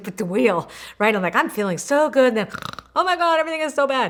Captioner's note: mimics snoring